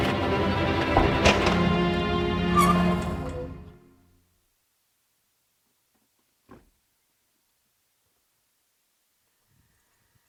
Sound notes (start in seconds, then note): 0.8 thuds; 3.7 brakes screech